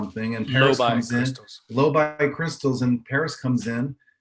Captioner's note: none